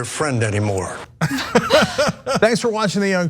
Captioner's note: laugh